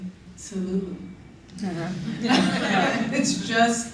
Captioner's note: laughter